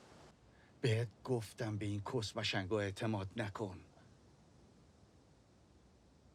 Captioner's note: Assad speaking in foreign language